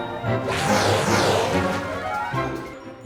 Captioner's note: water splashing; uptempo music